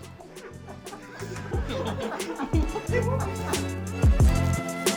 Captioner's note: laughing